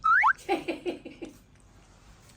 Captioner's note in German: lachen